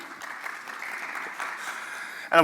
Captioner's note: applause